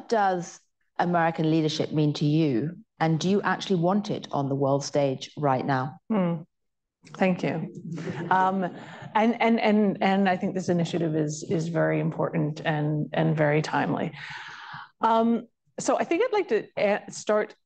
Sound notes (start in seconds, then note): 7.8 laughter